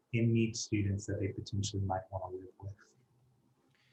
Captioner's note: speaking faintly